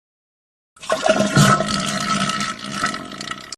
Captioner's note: intense shitting